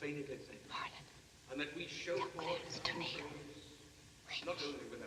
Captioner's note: whispers